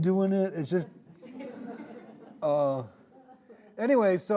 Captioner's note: audience laughing